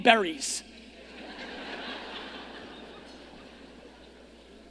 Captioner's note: audience laughing